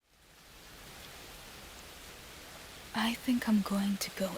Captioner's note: rain